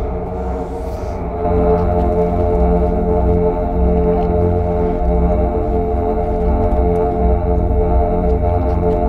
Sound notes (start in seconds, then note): 0.0 rumbling intensifies